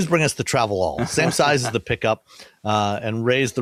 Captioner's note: laughs